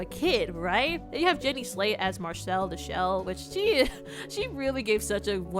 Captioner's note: chuckle